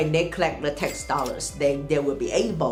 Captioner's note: cash register chimes